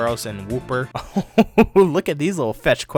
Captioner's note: laughs